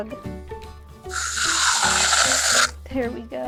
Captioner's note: water spraying